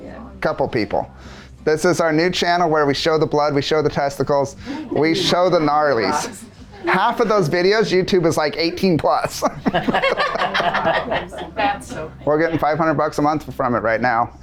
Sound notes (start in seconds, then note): 11.3 laughter